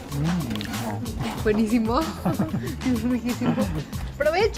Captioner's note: all speaking Spanish